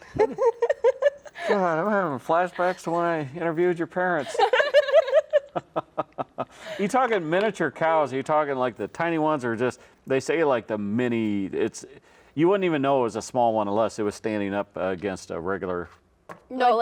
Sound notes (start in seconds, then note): 0.0 laughs; 4.2 all laugh